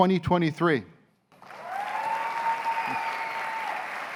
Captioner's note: cheers and applause